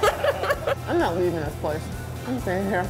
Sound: laughs; mouth full talking

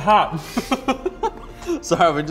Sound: laughs

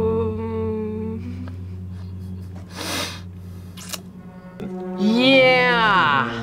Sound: laughs

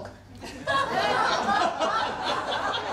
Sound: laughter

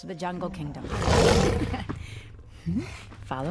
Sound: giant cat roars; laughing

